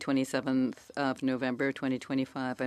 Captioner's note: speaking French